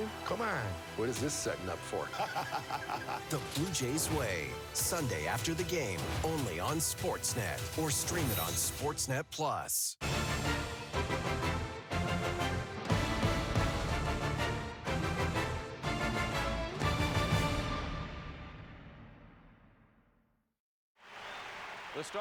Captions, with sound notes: “Come on” “What is this setting up for?” [laughter] The Blue Jays Way, Sunday after the game. only on Sportsnet or stream it on Sportsnet Plus